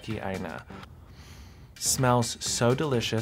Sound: sniffs

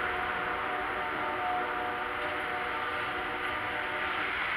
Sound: Continiuing CSX Horn Whistles

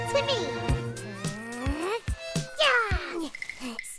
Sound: June struggles and grunts

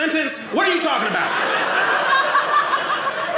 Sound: audience laughing

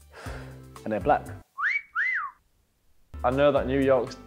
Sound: whistling

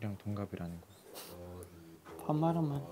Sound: chuckles

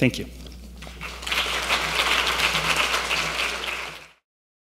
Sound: audience applause

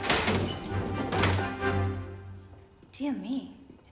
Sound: oven door opening

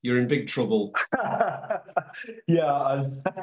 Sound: laughs

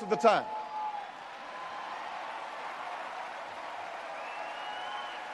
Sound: audience cheers and applauds

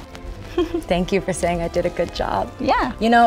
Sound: laughs

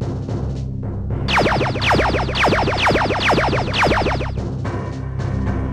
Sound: lasers firing

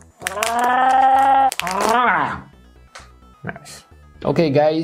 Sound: groaning

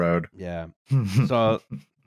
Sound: chuckles

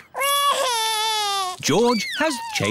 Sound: crying

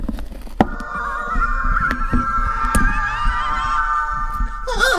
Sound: cries of Torture

